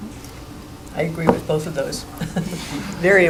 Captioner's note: chuckling